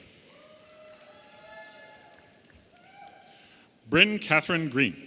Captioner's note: audience applauding and cheering